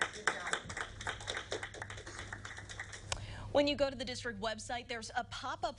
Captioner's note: applaus